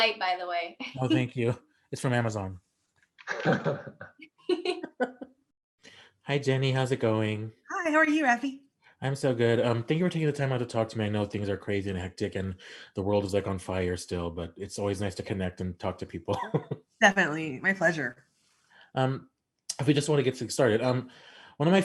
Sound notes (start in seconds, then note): 3.2 all laughing